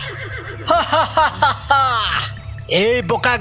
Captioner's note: loud laughter